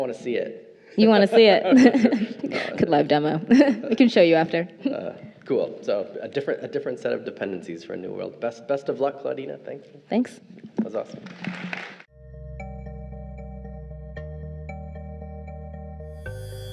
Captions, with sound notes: - I wanna see it. - You wanna see it. Could live demo, I can show you after. - Cool, so different, a different set of dependencies for new world best of luck Claudina thank you. - Thanks - Was awesome. (crowd applauding) (bright soft music)